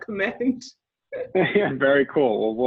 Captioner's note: laughs